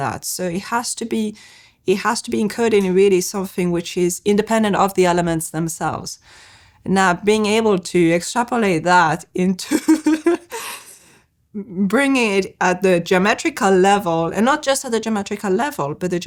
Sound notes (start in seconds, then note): 9.7 chuckles